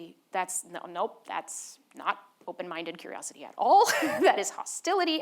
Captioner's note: laughs